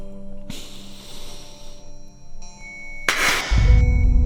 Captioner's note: Ronnie gasping; dramatic music; hands clapping